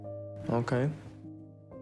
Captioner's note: voiceover